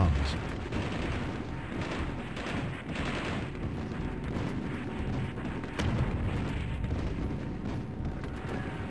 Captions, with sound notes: plus a further 1,000 guns. -[guns bang] -[explosions boom]